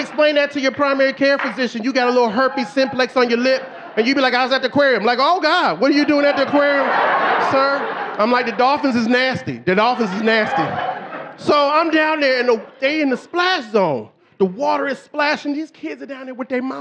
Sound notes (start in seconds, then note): 8.7 audience laughing; 11.6 audience laughing